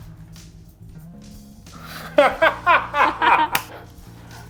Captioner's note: laughing